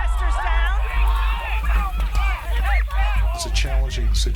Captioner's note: protestors and workers shouting